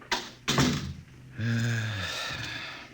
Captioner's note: sighs